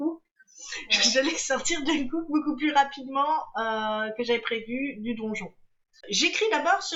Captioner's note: laughs